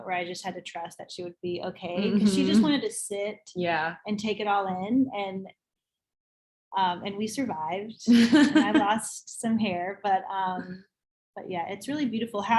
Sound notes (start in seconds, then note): 8.1 laughs